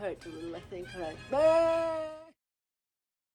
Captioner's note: exclaims